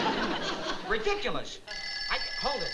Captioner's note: phone ringing